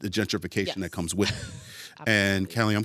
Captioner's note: chuckles